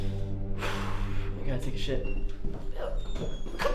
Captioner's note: sighs